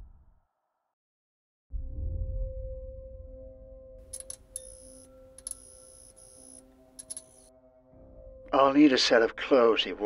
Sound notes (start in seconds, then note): 1.9 gentle, quiet music; 2.3 buzzing light